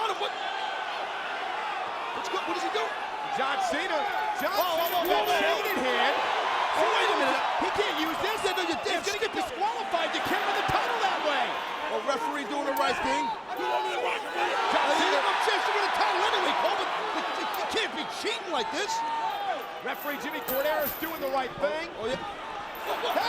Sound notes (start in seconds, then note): 4.4 chain rattling; 12.8 chain rattling; 14.7 crowd cheering; 19.9 chain jangling